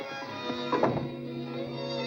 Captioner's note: door closes